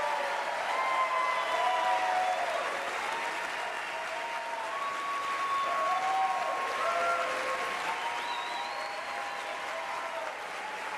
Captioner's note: applause